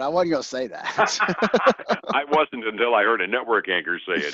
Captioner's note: both laughing